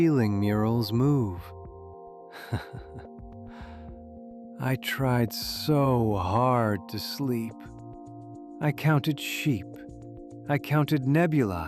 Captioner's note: chuckles